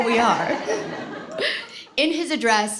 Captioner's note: laughter